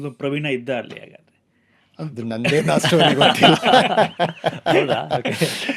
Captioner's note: laughs